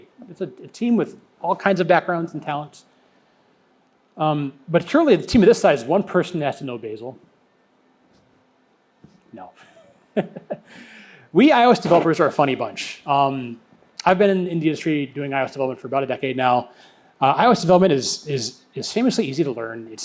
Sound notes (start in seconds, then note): 10.2 laughs